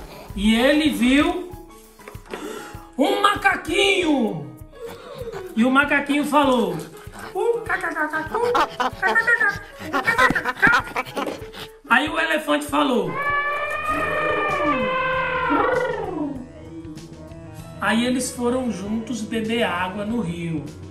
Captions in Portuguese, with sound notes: E ele viu um macaquinho! E o macaquinho falou [Som de macaco] Ai o elefante falou [Som de elefante] Aí eles foram juntos beber água no rio,